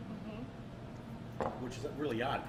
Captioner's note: glass thuds